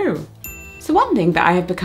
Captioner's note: pings